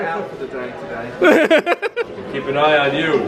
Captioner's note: laughing